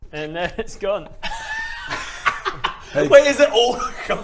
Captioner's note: unsympathetic laughter